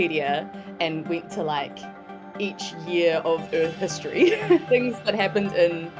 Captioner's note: chuckles